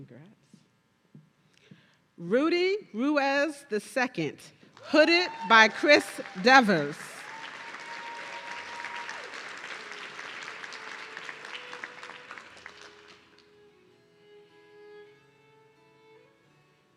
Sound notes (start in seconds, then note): 7.7 audience cheering